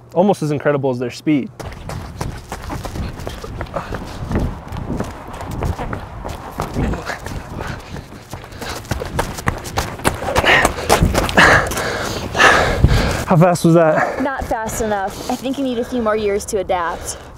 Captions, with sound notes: Almost as incredible as their speed! *quick footsteps and running noises* *gasping for air* How fast was that? Not fast enough. I think you need a few more years to adapt.